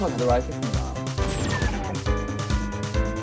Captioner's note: whoosh!